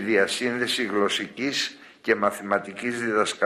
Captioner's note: none